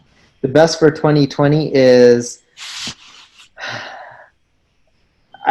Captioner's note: sighs